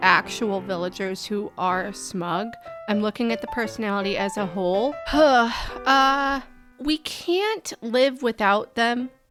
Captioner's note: sighing